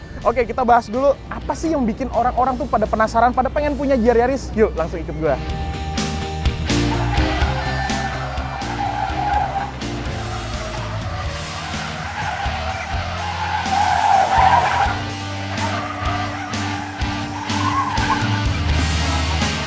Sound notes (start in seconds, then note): 7.5 tire sound